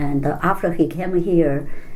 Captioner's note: none